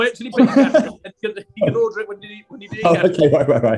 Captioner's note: laughing